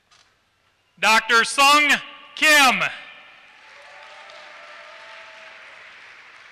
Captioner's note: applause